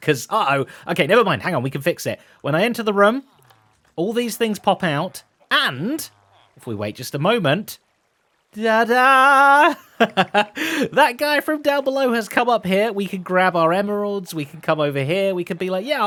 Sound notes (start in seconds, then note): 9.2 laughs